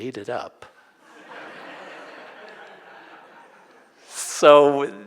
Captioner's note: audience laughing